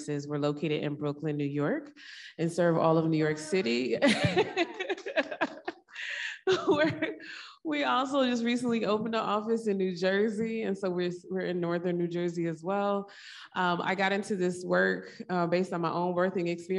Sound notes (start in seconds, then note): 4.0 laughs